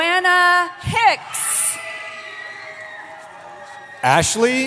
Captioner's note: cheering